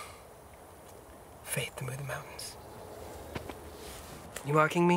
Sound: birds chirping

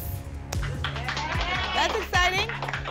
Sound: applause and cheering

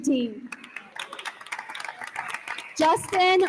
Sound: attendees applauding

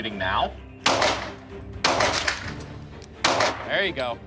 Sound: gunshots

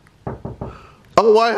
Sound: door knocking

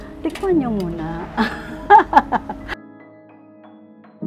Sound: laughs

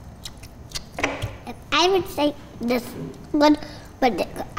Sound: none

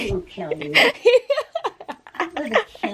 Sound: laughing hysterically

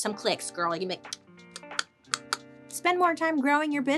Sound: tongue clicking

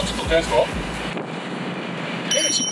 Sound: 𝔀𝓱𝓲𝓼𝓹𝓮𝓻

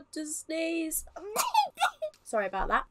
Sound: sneezes

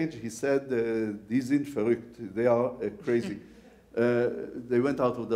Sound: speaks foreign language

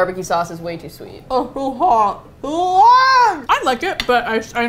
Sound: mouth full, muffled

